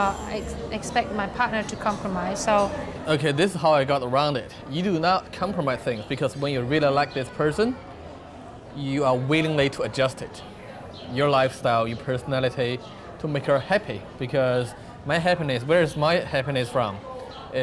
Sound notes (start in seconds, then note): none